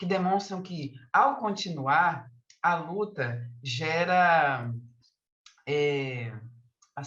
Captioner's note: continues speaking in Portuguese